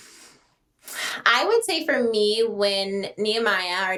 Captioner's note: both sighing